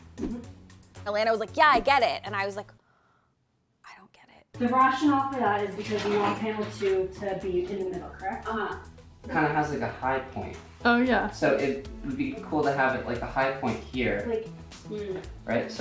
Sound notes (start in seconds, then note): 3.9 whispering